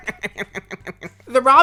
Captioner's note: evil little chuckle